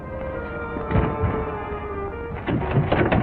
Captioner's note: thuds; clattering